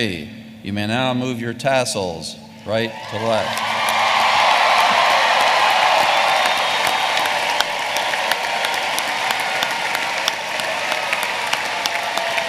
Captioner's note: applause